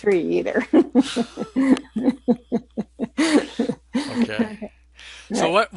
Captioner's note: laughter